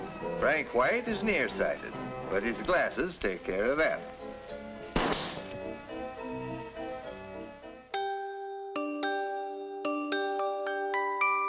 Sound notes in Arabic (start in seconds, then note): 4.9 إطلاق نار; 7.9 رنين الجرس اللحني